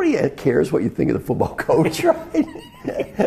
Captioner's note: laugh